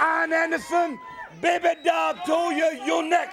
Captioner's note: crowd chatter